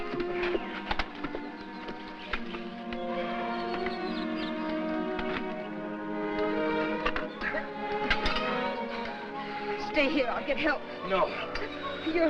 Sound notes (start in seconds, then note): 8.0 metal rattling